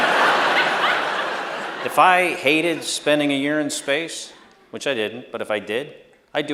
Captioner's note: laughter